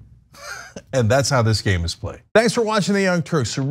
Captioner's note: laugh